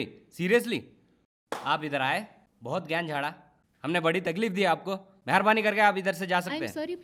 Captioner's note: claps hands